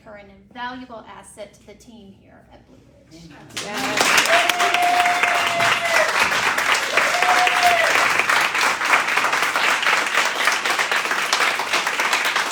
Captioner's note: cheering and applause